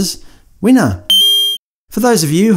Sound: ding

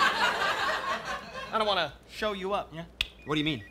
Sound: clicks tongue

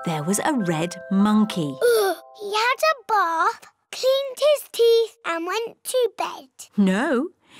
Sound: sighs

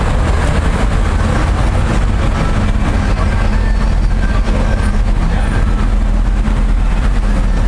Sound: Osborne Street Traffic Noise

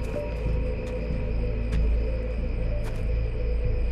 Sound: insects chirping

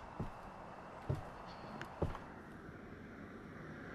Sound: footsteps thunking; traffic humming

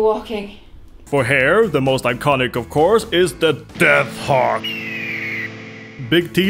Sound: hawk screeches

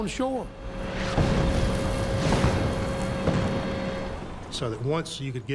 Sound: cannon shots exploding

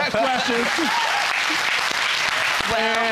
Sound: audience applauding

